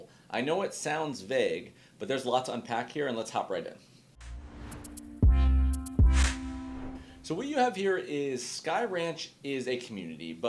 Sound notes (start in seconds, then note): 4.2 chill instrumental music; 4.2 graphic swooshing